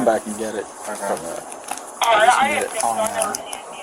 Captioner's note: radio chatter